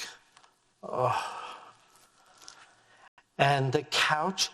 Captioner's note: sighing